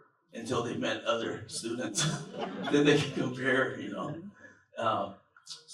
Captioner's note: laughter